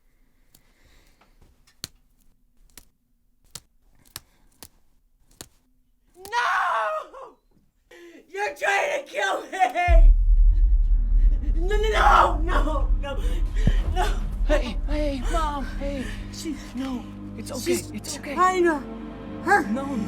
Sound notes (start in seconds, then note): 9.6 dramatic music; 12.5 crying